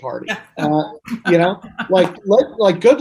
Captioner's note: laughs